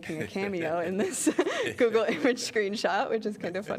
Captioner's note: laughter